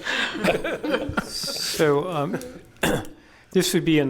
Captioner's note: laughter